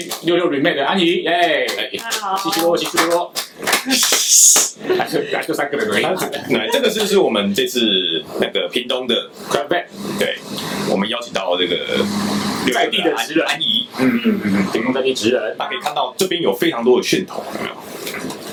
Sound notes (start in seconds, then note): 1.4 light applause